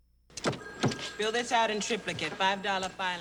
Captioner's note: phone ringing